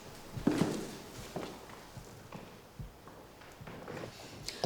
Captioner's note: footsteps plodding